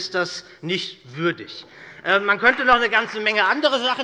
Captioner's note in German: Beifall bei Abgeordneten der SPD